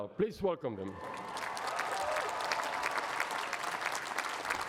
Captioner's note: cheering and applause